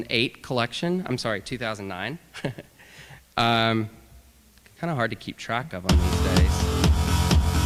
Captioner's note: laughter